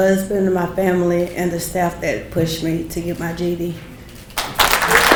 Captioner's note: people clapping